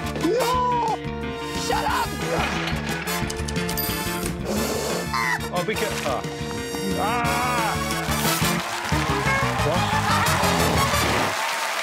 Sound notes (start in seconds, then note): 2.5 tings; 10.0 cheers and applause